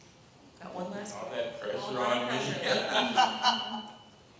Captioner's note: laughter